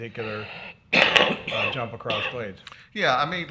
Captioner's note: speaking faintly